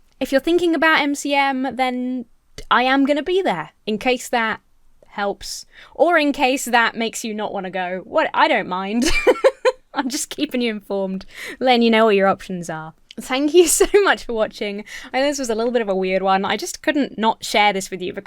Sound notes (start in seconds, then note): 9.0 laughs